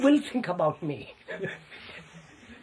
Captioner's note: laughs